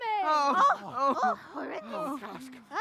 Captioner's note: crowd exclaims